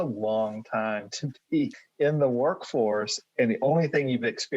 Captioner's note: chuckles